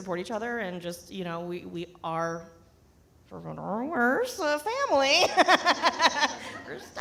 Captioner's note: laughs